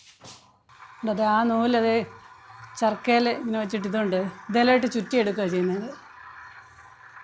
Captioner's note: spinning wheel